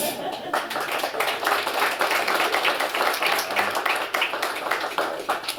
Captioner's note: applause